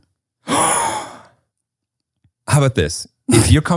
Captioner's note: gasps